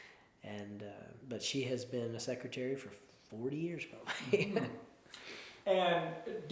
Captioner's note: chuckles